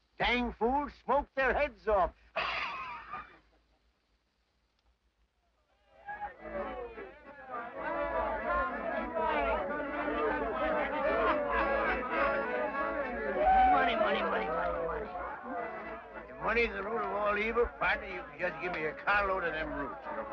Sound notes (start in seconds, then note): 2.3 chuckles; 7.4 harmonica music; 7.4 men shouting